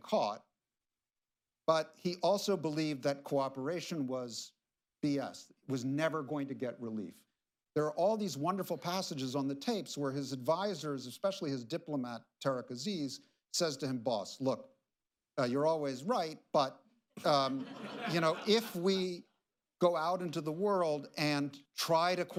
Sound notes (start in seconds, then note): 17.2 laughter